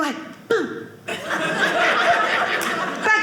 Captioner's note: audience laughing